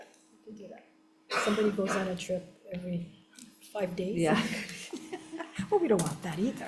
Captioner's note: laughs